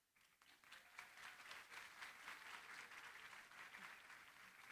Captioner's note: applause